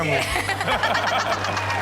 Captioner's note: all laugh; audience cheer and applaud